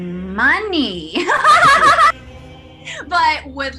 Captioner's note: maniacal laughter